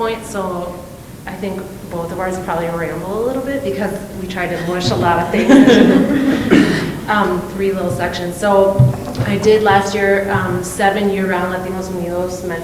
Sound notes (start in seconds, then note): 6.6 laughing